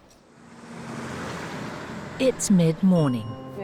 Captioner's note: truck engine rumbling